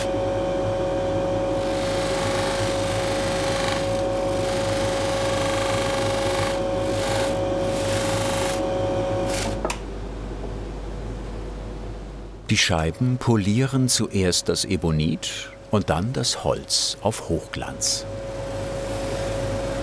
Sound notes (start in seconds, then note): 8.9 the polishing machine stops; 17.9 whirring buffing